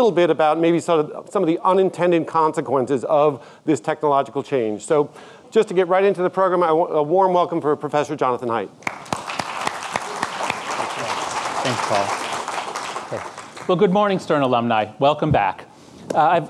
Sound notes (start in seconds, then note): 8.8 audience clapping